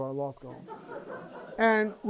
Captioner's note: laughter